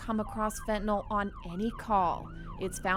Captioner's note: sirens wailing